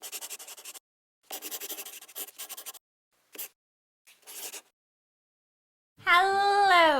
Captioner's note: the sound of a pen scratching